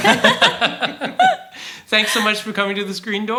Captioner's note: laugh